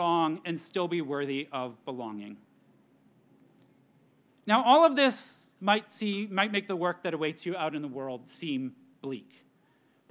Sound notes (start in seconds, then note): none